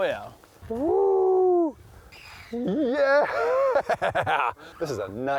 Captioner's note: laughing